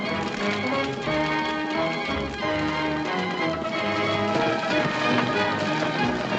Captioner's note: fire crackling; dramatic music